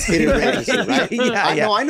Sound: group laughs

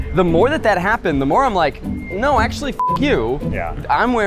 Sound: beep

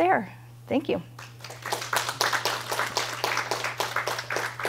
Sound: applause

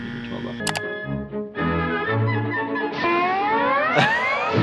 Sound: mouse clicks

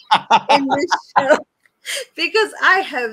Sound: laughs

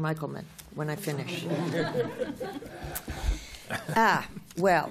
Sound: laughter

